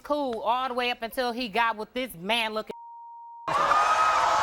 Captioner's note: beep; crowd gasping